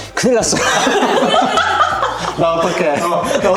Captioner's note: laughs